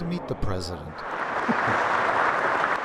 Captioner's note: applause